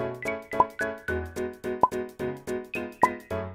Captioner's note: plup